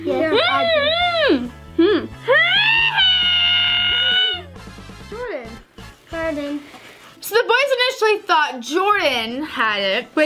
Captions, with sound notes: (humming loudly) (yells) Jordan. - So the boys initially thought Jordan had it.